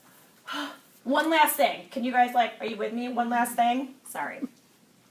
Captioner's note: sigh